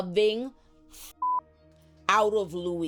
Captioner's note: beep